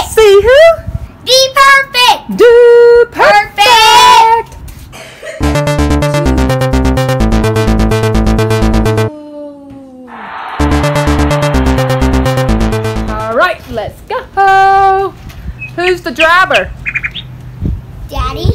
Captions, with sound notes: See who? Dude Perfect! [TECHNO MUSIC PLAYING] Whoa. [CROWD CHEERING] All right, let's go. Who's the driver? Daddy.